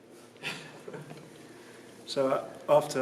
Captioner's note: snickers